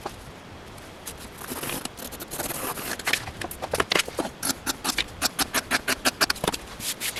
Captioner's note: sped-up pencil sounds, scissors sounds